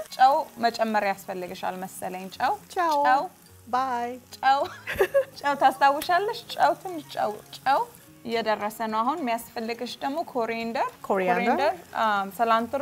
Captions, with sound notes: - (speaking Amharic) - (Amharic) bye! - (speaking Amharic) - Coriander, cilantro.